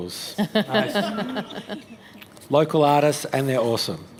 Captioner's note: laughter